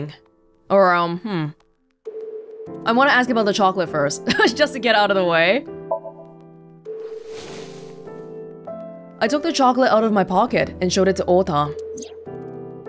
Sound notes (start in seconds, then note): 4.4 chuckles